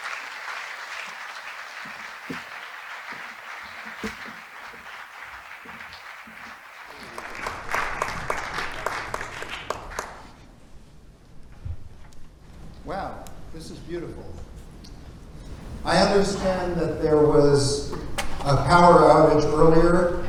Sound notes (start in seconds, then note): 3.7 applause